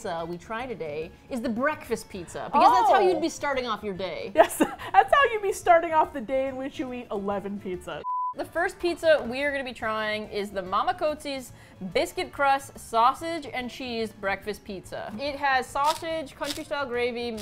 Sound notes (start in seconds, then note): 4.4 laughs